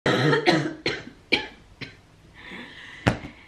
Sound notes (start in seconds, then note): 0.0 coughing